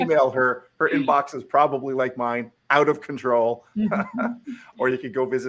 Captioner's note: laughs